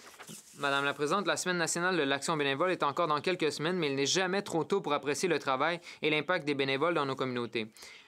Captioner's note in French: voix de l'interprète